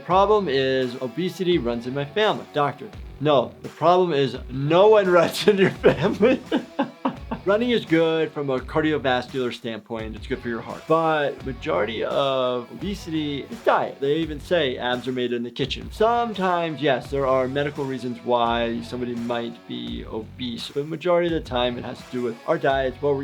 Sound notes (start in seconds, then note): 5.4 laughing